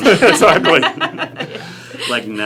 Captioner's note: laughing